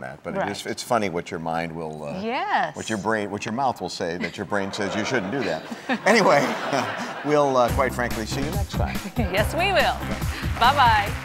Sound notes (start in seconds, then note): 4.2 audience laughing